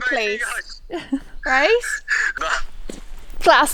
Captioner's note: laughing